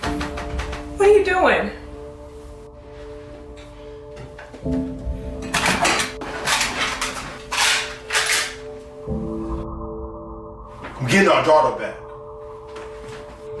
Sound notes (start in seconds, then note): 5.3 gun clicking; 5.4 gun rattles